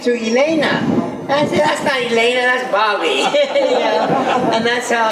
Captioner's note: laughs